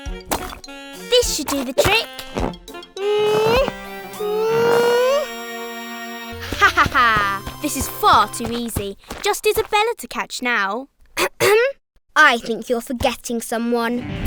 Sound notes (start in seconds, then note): 2.5 grunting; 6.4 satisfied laughing; 11.2 throat clearing